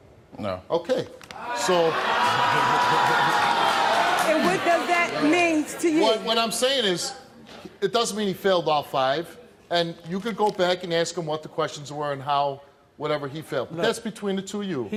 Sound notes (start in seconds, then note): 1.3 audience yelling